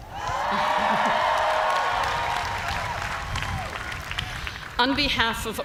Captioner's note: cheers and applause